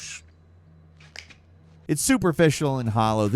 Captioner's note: fingers snap